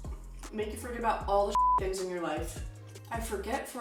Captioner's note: beep